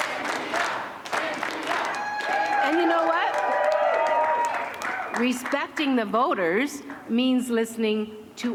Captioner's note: chanting